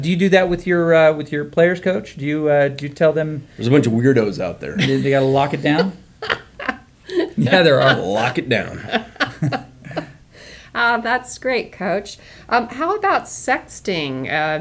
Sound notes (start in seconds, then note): 4.7 woman laughs